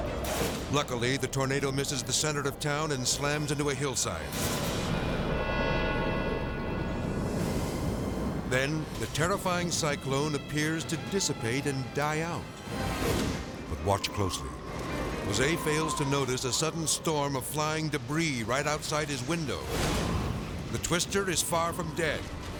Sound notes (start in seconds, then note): 0.0 explosion booming; 4.4 intense music; 4.4 wind whooshing; 14.5 wind whooshing; 19.4 screen whooshes